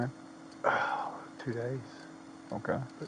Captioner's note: sighs